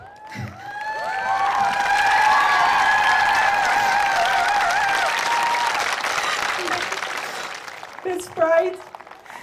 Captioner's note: cheering and clapping